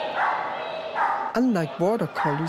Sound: dog barking

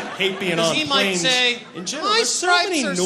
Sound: crowd laughs

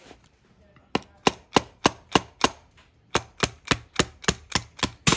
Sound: screwdriver thudding

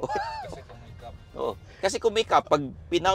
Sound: laughs

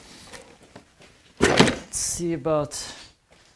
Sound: box thumping

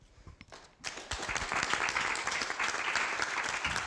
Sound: applause

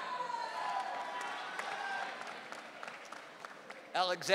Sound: audience cheering

